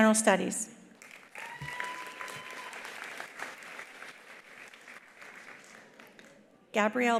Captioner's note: attendees applauding; attendees cheering